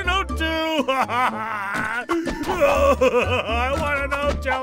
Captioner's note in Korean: 아직도 우는 중